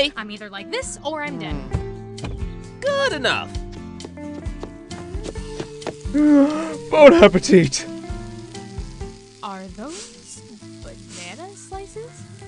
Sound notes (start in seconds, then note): 2.2 thumps; 5.2 heavy breathing and sizzling